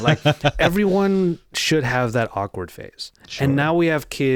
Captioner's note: laughing